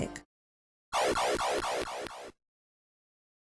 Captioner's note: Castlevania game sound effect 3